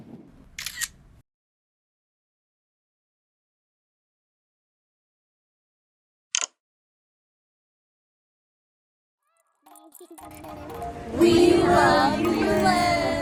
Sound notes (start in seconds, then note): 0.6 camera Shutter; 5.8 phone Lock Sound